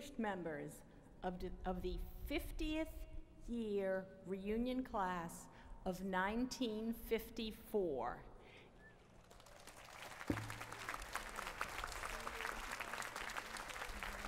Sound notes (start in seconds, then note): 9.2 applause